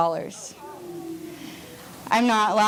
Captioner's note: audience groans